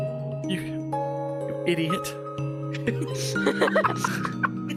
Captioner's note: all laughing